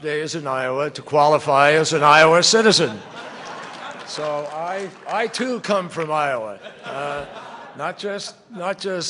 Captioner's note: laughter